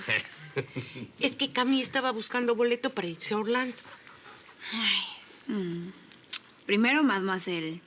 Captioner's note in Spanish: Risas